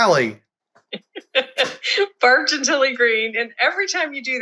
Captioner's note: laugh